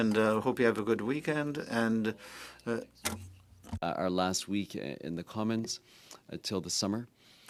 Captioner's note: speaking French